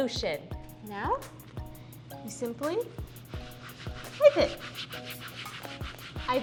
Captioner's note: sound of wiping mat